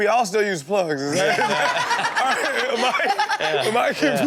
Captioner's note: Chanel and audience laughing